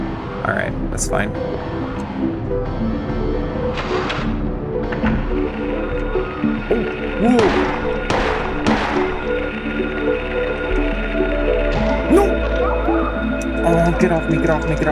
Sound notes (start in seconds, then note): 7.3 gunshots